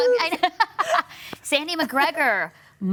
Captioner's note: laughing